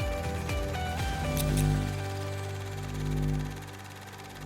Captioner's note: scissors snipping; static buzzing